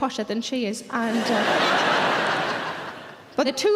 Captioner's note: audience laughs